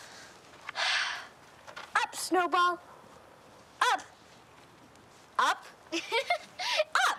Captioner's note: sighing